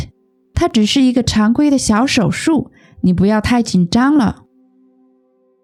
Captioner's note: explaining the example in Chinese